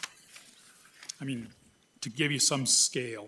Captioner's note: paper whirring